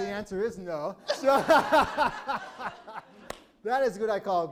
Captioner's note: laughing